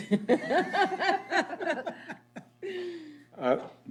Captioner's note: laughter